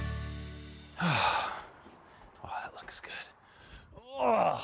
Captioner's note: upbeat music; gasping; grunting